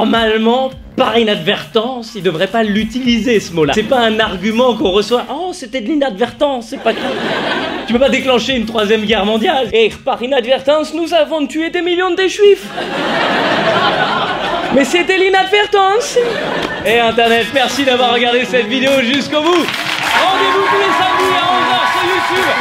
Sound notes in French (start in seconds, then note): 6.7 rires; 9.7 accent allemand; 12.6 rires; 14.7 accent allemand; 19.5 applaudissements